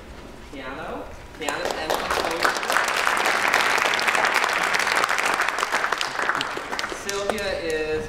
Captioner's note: applause